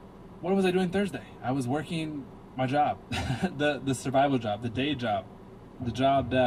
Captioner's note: laughs